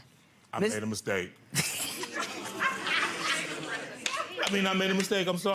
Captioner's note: laughing